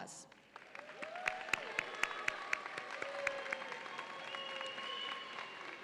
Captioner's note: audience applauds and cheers